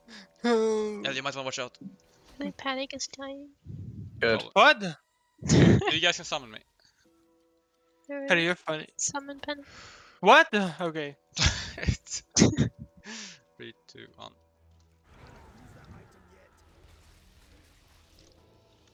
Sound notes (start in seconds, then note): 5.5 haha; 12.0 hah